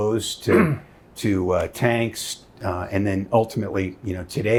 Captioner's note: clearing throat